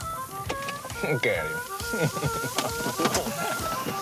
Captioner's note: laughter